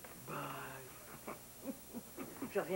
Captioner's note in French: Rires